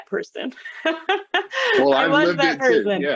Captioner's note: laughter